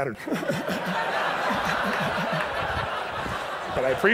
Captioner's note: chuckles; audience laughs